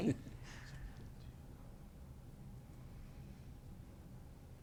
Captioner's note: whispering